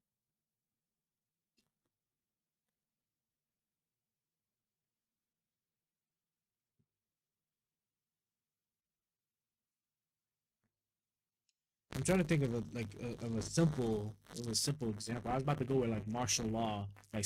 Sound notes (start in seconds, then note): 0.6 silence